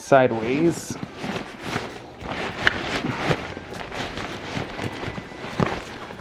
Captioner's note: backpack fabric rustles